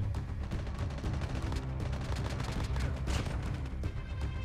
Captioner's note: Firing shots